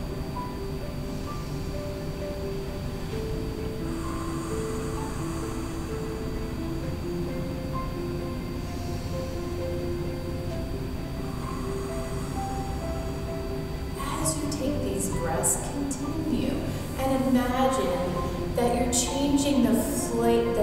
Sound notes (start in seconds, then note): 0.1 inhale; 3.6 exhale; 7.5 inhale; 11.1 exhale